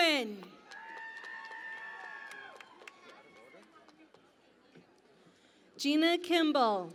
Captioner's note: cheering and Applause